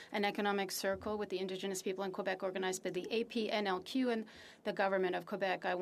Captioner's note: speaking french